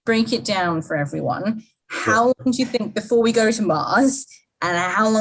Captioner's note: microphone cuts out